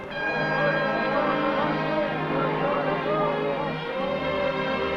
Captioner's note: men chanting